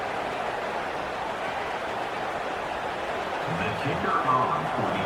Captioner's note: crowd Noises